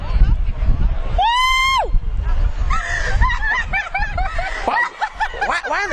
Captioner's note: screaming